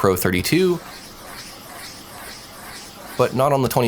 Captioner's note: device scratching